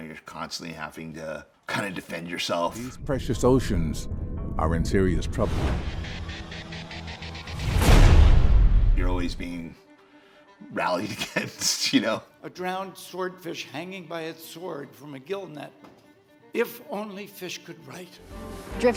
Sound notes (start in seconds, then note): 5.8 intense music; 10.8 laughs